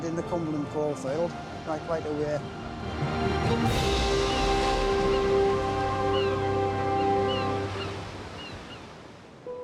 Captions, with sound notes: in the Cumberland coal field by quite a way. (waves raging) (bright upbeat music)